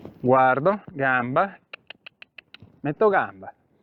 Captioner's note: cluck